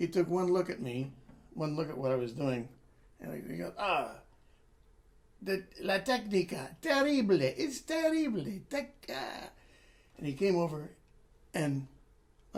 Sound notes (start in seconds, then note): 6.4 italian 00:02:38